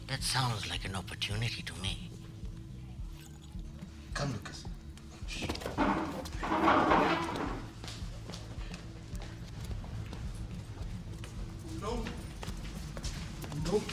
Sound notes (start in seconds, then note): 5.3 chair scrapes; 9.4 bar music